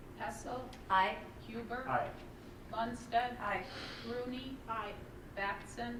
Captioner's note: none